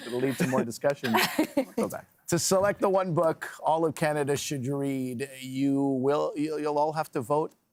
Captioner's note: laughter